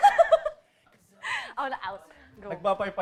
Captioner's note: laughs